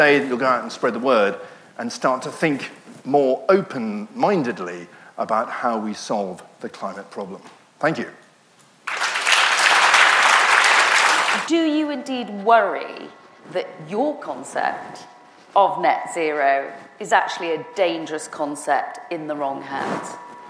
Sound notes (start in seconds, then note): 8.8 audience applauds